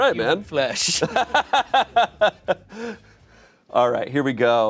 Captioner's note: laughs